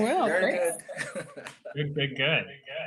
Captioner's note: laughs